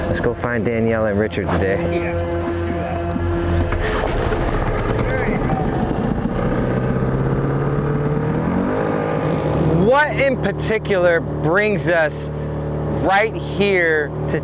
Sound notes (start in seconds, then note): 3.9 boat engine starting; 7.2 boat engine revving